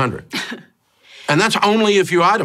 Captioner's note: scoffing